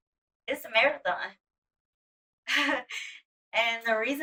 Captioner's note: chuckling